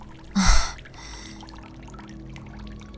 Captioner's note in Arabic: ضحك; تنهّد